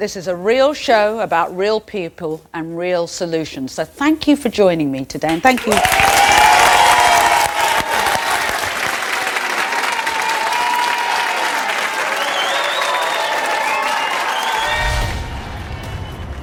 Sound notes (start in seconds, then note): 6.5 audience applauding